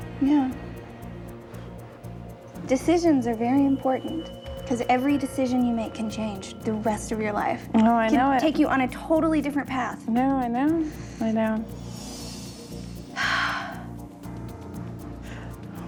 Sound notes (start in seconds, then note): 13.1 sighs